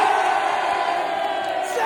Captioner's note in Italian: Applauso